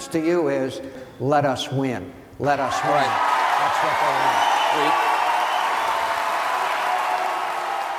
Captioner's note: cheers